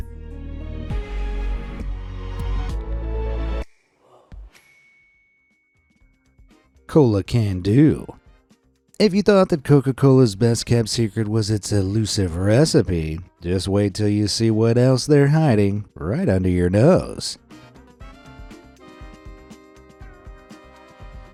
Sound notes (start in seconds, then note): 0.0 light suspenseful music; 4.6 bell dings; 17.7 funky upbeat music